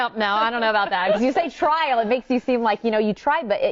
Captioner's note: laughing